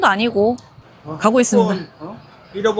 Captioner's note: police car